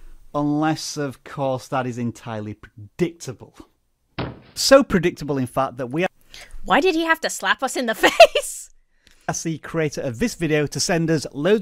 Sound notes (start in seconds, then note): 7.9 laughs